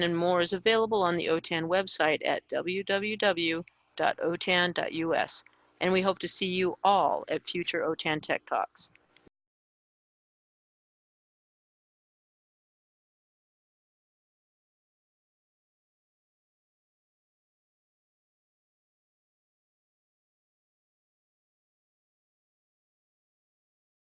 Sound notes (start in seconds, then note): 10.6 silence